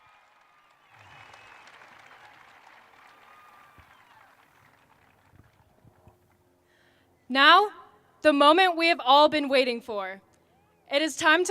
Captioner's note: cheers and applause